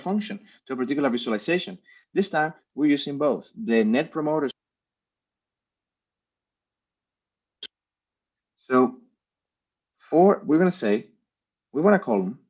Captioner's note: audio cut out